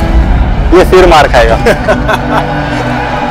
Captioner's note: Laughing